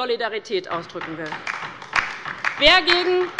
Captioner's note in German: Beifall bei der LINKEN